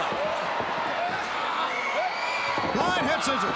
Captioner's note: crowd cheering